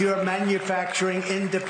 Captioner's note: applause